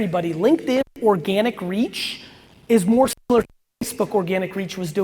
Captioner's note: audio distortion